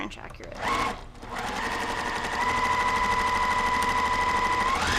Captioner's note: sewing machine roaring